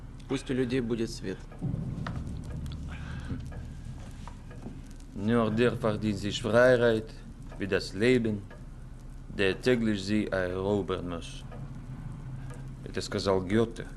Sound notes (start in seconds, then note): 4.9 speaking German